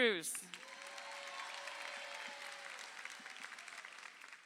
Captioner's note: crowd applauding